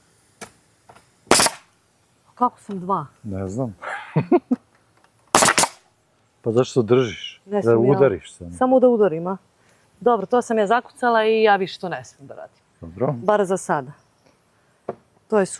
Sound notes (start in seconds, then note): 3.8 laughs